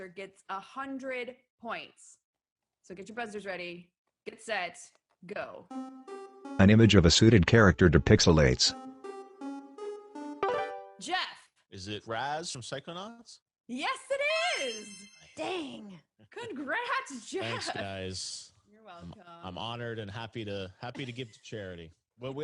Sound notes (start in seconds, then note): 5.6 timer countdown